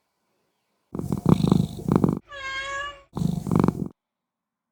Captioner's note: cat purring and meowing